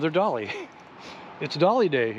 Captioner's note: chuckling